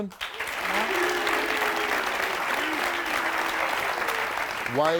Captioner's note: audience clapping